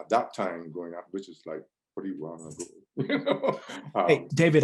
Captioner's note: laughs